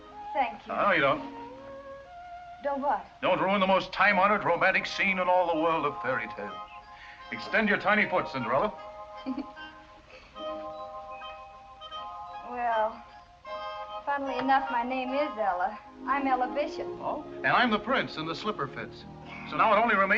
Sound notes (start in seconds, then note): 9.2 laughs